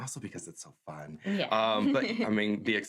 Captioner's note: laughs